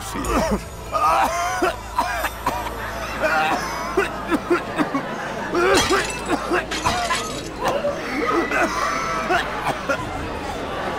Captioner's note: coughing, screaming